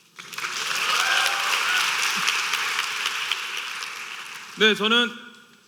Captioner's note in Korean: 박수